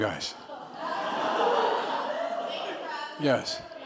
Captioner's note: laughter